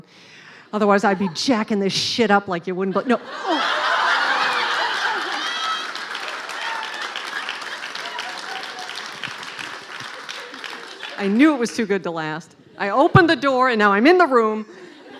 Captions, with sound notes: Otherwise I'd be jacking this shit up like it-- Oh!-- [laughing] I knew it was too good to last. I opened the door, and now I'm in the room.